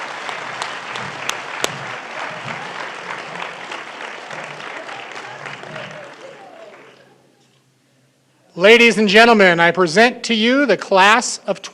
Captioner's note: cheering and applause